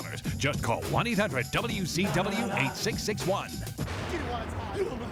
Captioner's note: graphics booming